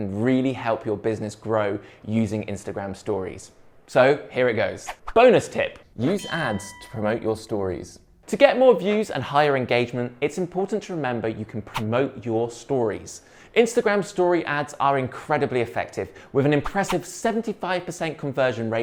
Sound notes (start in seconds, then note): 6.0 bell rings